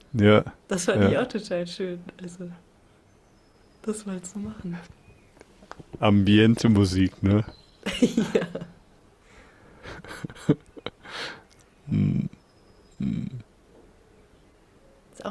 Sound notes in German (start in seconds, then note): 7.8 gelächter